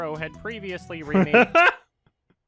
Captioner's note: laughs shortly, but meaningfully